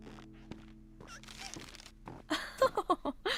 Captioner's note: chuckling